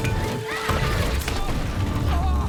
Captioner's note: screams